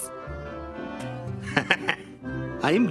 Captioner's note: chuckles